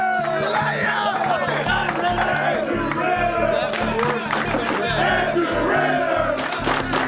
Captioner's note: chanting and clapping